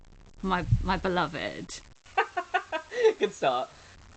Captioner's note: laughs